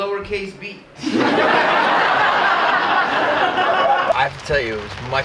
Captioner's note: audience laughing